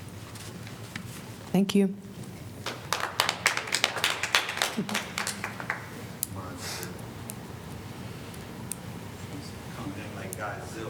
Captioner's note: applause